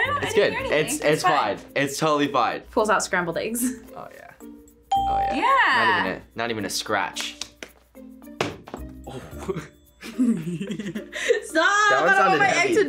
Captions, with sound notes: - Oh, I didn't hear anything. - It's good, it's fine. It's totally fine. - Pulls out scrambled eggs. - Oh yeah, oh yeah. (bell rings) - Yeah! - Not even a scratch. Oh. (laughs) - (laughs) Stop, I don't want my egg to die!